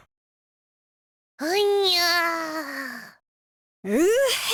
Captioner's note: weary groan